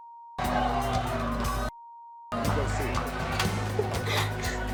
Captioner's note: screaming